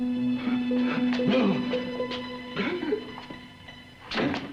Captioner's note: Kurt groans & whimpers; door handle rattles